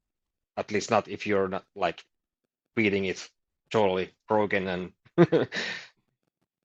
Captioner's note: chuckles